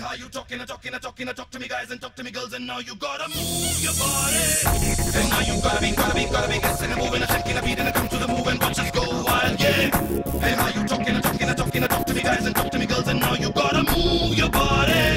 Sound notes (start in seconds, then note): 13.1 phony chants